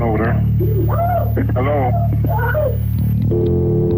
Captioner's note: woman screaming